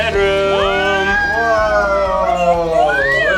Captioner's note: cheering